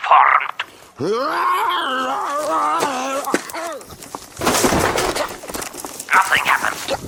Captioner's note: roaring